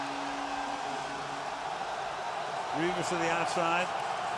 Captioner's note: whistles